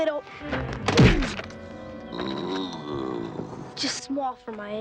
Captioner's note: blow thuds; Max groans